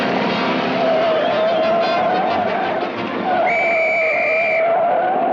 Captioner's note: Daffy's feet screeching; Daffy blowing whistle